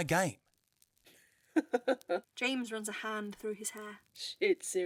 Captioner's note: James laughs